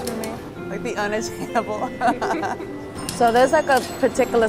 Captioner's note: laughs